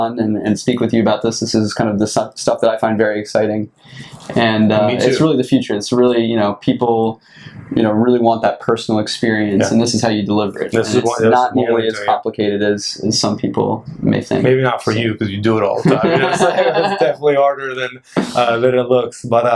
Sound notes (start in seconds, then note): 15.8 laughter